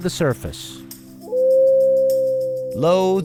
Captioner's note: wolf howling